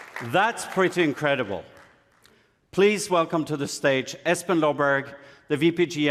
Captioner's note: applause